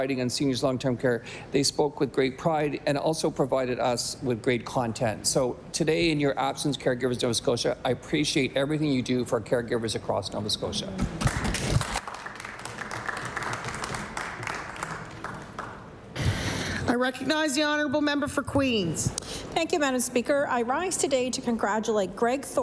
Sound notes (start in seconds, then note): 14.4 applause